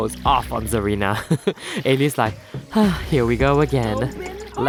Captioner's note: sigh